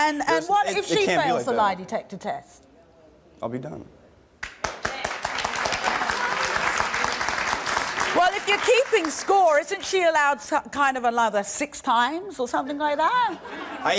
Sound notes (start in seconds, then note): 4.4 audience clapping